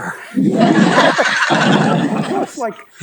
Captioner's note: audience laughing